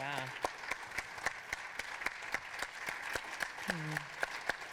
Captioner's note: audience applauding